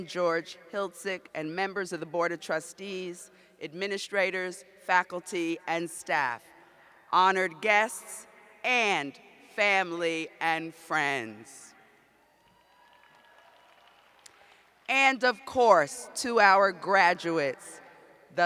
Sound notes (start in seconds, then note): 12.2 cheers